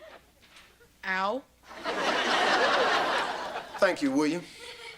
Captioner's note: audience laughter